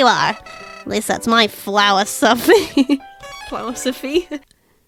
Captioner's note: laughs